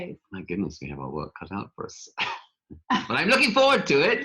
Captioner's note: laughs